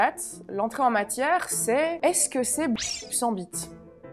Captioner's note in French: bip